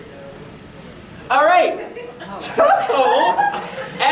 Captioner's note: laughing